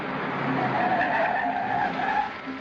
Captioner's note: tires screeching